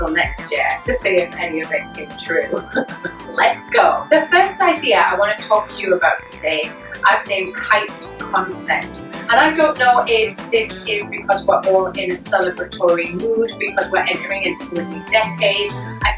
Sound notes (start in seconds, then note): 2.5 chuckling